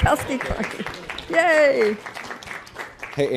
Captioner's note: applause